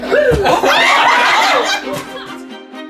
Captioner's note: screams